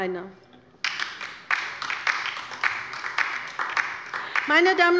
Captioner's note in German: Beifall bei der LINKEN